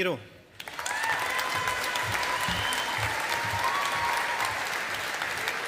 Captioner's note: audience applauding